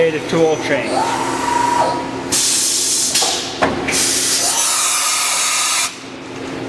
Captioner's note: machine hisses and whirs